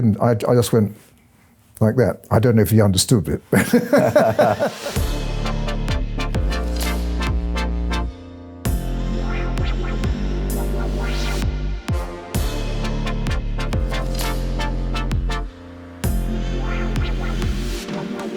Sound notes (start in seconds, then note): 3.5 laughing; 5.3 upbeat music